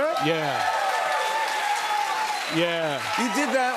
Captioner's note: cheers and applause